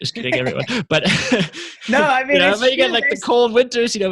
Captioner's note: laughs